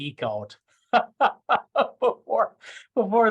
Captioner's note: laughing